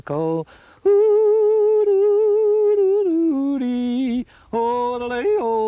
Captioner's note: hums melodically